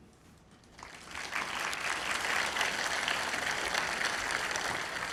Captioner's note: audience applauding